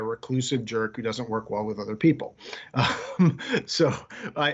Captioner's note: laughing